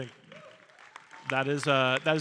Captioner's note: audience cheering and applauding